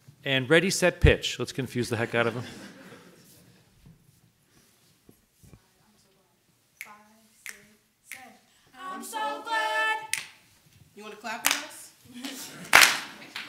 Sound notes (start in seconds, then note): 2.1 audience laughs; 7.4 choir member snaps fingers; 12.1 audience begins clapping in unison